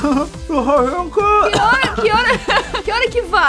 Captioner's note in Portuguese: tossindo